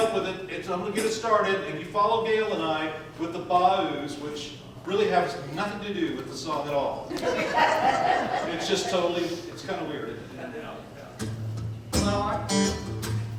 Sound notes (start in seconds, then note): 7.1 audience laughs